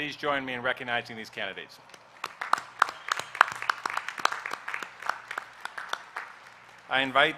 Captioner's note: applause